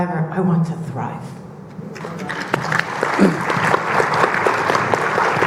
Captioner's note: audience clapping